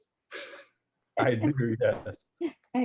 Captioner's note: laughs